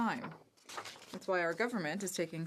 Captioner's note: speaking French